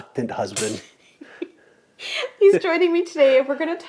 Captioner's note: laughs